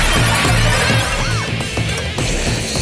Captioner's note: sigh